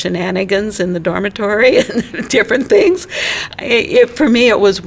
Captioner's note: laughing